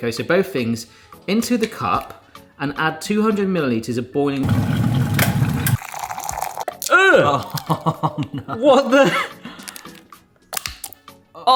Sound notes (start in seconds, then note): 4.4 water boiling; 4.5 water pouring; 7.1 laughs; 9.6 nata de coco plops